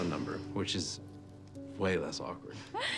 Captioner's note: laughing